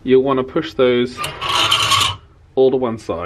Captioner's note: hangers squeaking